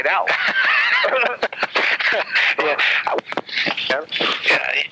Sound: both laugh

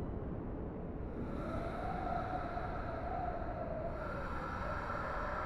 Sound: wind howling

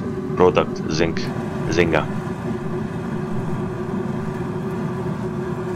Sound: car engine roaring

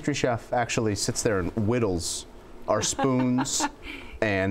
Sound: laughs

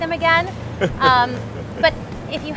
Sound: laughing

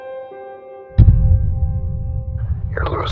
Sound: thud with echo

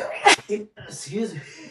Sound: sneeze

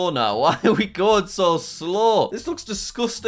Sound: chuckles

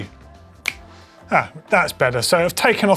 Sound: snaps fingers

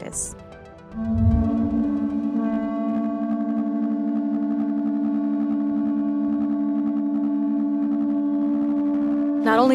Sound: horn sounds

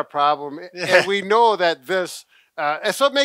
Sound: chuckles

